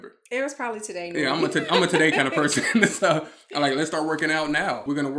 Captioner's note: chuckles